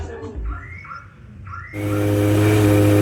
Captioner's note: loud shouting; car alarm; loud pump